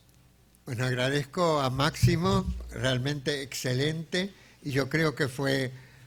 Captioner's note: speaking in a foreign language